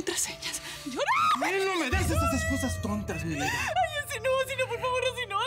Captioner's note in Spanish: Gritos